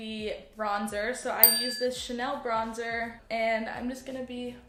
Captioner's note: ding